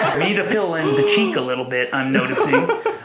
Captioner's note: gasps; chuckles